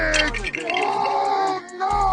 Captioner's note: glass breaking